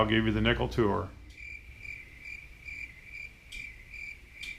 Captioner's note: crickets chirping